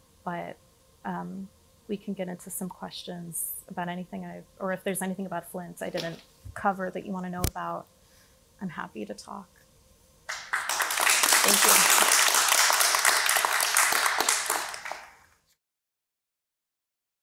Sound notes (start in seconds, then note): 10.3 applause